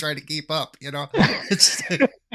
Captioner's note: several panelists laughing